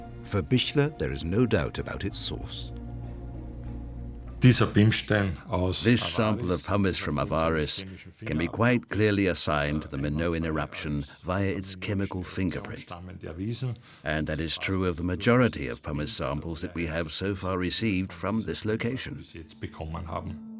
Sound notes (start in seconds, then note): 4.3 speaking German